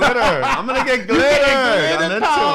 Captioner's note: laughs